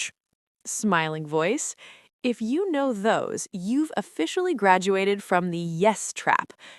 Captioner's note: smiling voice